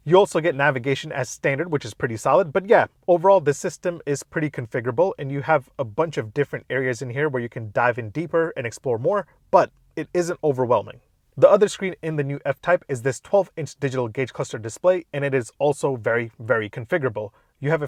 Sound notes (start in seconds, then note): none